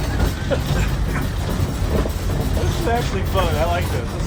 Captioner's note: laughing